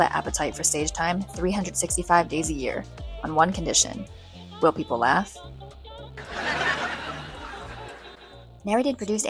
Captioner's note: audience laughter